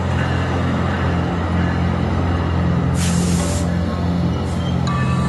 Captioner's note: train hiss